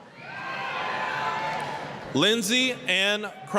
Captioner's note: applause, cheering